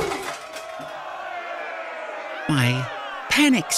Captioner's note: angry crowd